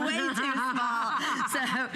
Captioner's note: laughter